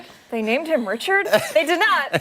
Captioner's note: laughter